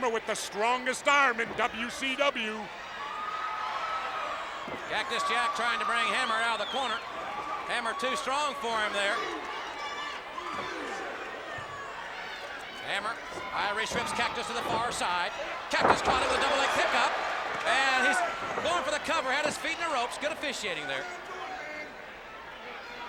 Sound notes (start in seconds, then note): 2.8 audience cheers